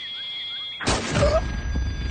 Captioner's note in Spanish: Disparo